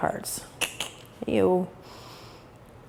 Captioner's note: tongue click